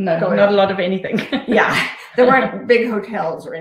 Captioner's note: laughing